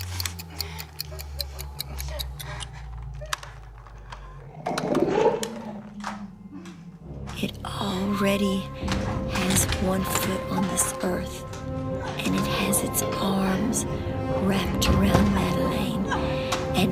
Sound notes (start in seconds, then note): 0.0 clock winding down; 4.9 gnarling